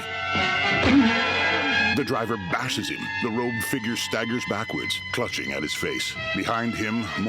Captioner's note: pained moaning